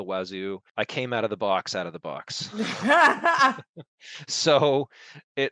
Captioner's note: both laugh